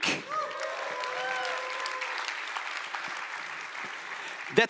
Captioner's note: audience applauds